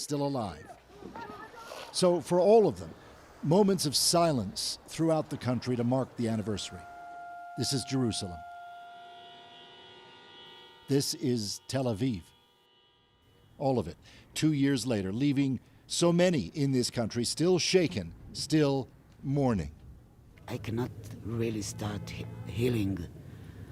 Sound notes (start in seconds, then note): 10.5 horns